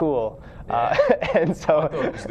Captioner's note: laughs